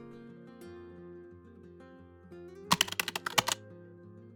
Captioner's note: keyboard typing sound